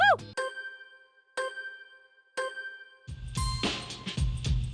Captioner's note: clock ticking; upbeat music